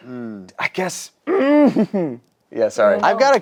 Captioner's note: grunts